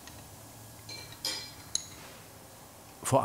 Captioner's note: quiet metallic clanking